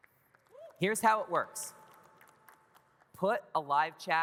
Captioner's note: audience cheers